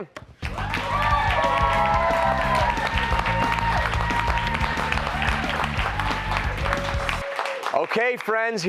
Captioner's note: cheers and applause